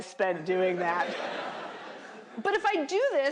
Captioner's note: laughter